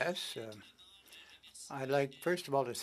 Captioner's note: speaking French